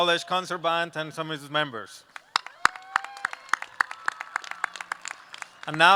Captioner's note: applause